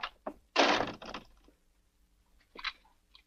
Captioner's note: door slams